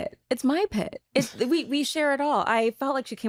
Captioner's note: chuckles